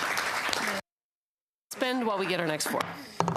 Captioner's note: applause